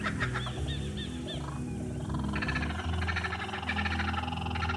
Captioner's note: animals chirping